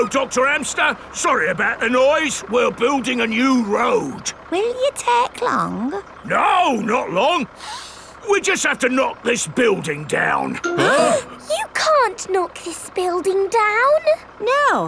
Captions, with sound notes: Hello, Dr. Hamster. Sorry about the noise. We're building a new road. Will you take long? No, not long. (SNIFFS) We just have to knock this building down. (ALL GASPING) You can't knock this building down!